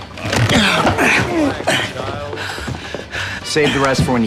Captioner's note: moaning